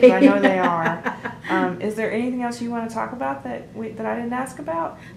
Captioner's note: laughter